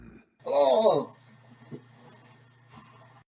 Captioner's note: death sounds